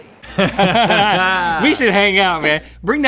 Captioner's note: both laughing